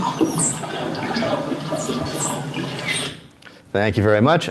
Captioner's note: dolphins squeaking